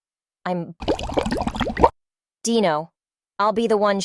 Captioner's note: bubble noises